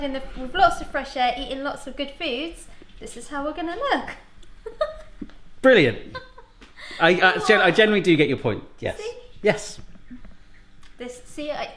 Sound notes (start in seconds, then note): 4.6 laughs